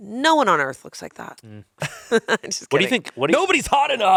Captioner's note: laughs